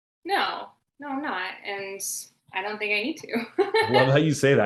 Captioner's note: laughing